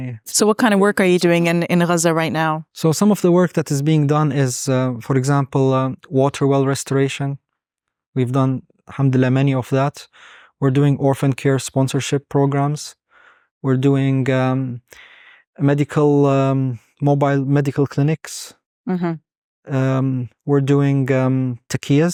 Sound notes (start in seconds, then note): 0.0 speaking Arabic; 8.8 speaking Arabic; 21.0 speaking Arabic